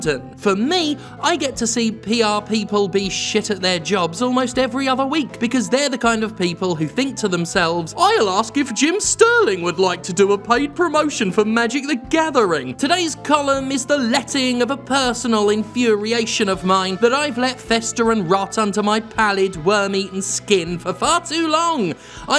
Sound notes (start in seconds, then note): 7.9 mocking